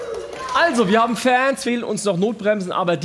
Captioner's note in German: Lauter Jubel